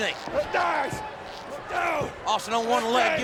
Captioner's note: wrestlers grunting